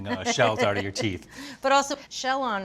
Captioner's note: Julia chuckles